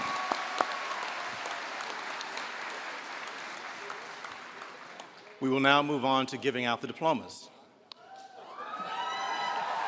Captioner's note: applause